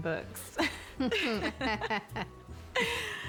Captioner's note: both chuckling